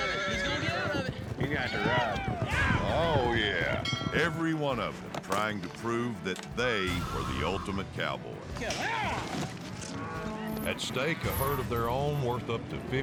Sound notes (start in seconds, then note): 2.9 horse neighing; 3.8 bell rings